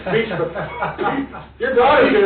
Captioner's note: laughing